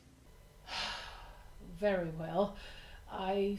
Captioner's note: sigh